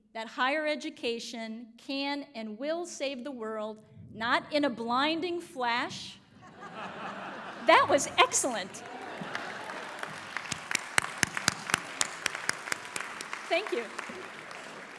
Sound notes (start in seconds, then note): 3.9 thunder rumbles; 6.4 audience laughs; 8.1 audience applauds